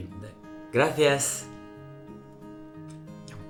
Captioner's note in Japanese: スペイン語